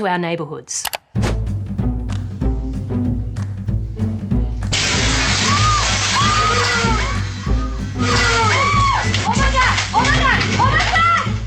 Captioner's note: screaming